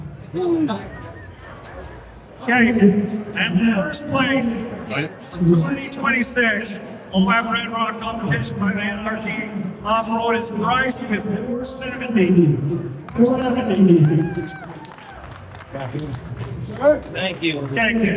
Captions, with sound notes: Okay, in the first place, 2026, Moab RedRok ramp competition by the anarchy off-road is Bryce with 470 (crowd cheering) Thank you. Thank you.